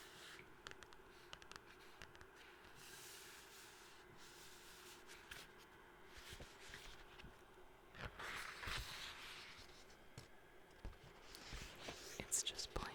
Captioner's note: tapping and scratching with page turning